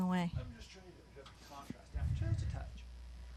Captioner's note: speaking off mic